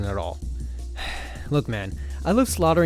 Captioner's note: sigh